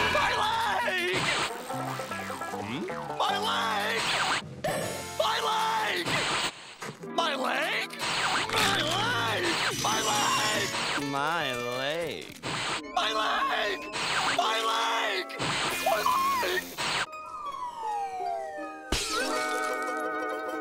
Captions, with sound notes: My leg! My leg! My leg! My leg? My leg! My leg! My leg. My leg! My leg! My leg! [shattering]